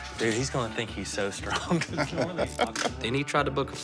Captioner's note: laughs